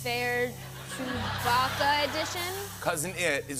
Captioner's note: laughter